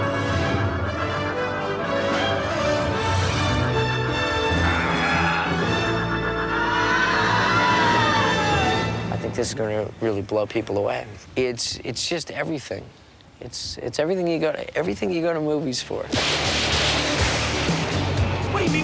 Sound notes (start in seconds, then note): 0.0 dramatic music continuing; 6.9 people yelling; 16.5 lights banging